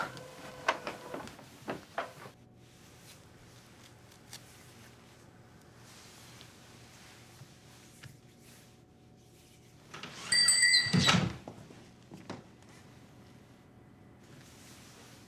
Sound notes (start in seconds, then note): 10.3 bell